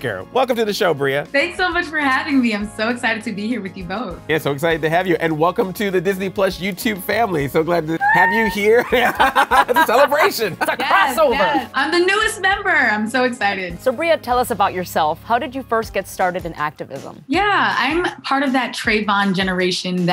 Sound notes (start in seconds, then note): 8.0 cheers; 8.6 laughter